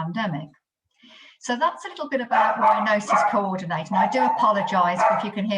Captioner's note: dogs barking